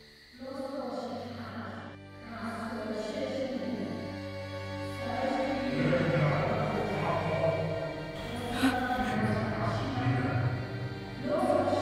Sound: distant voices of salith's parents

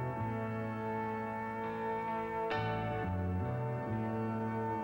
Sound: none

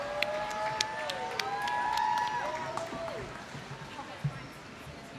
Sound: applause

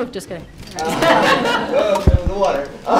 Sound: audience laughs

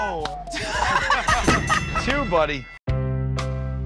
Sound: ding!

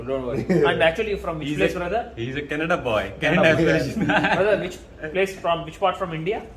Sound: laughs

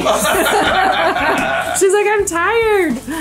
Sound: laugh

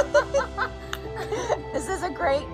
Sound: women chuckle

